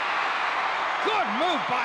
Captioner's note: crowd cheering